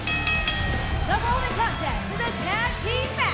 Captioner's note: bell ringing